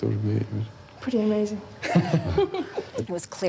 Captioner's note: laughs